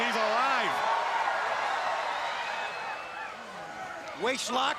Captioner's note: crowd cheering